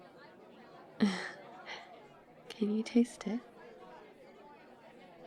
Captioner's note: small laugh